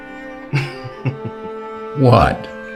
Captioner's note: Ruby laughs